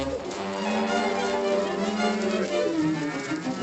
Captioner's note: cattle mooing